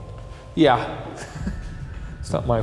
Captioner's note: chuckles